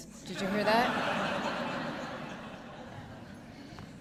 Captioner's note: laughter